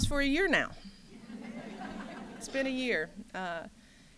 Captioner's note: laughter